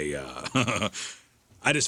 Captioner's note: laughs